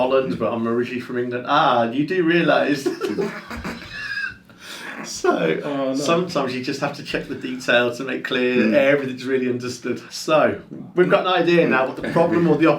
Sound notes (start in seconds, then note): 2.8 laugh